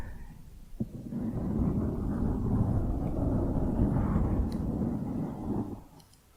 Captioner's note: dense mic scratching